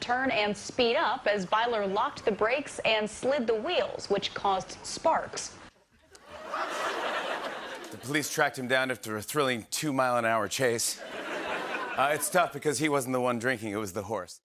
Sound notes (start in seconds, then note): 6.2 laughter; 11.0 laughter